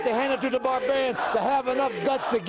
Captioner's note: crowd cheering